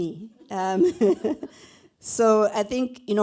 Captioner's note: laughter